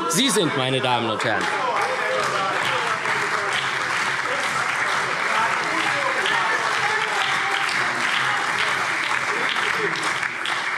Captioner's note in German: Beifall SPD, CDU, BÜNDNIS 90/DIE GRÜNEN und Freie Demokraten